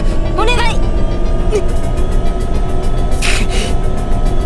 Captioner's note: pained grunts